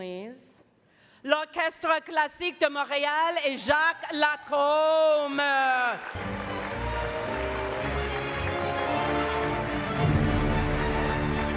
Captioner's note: speaking French